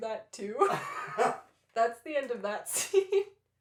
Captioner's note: laughter